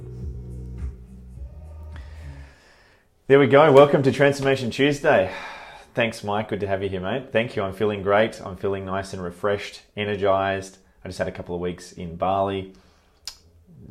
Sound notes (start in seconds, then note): 2.3 music stops